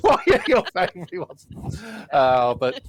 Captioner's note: laughter